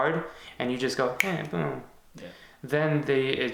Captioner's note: snapping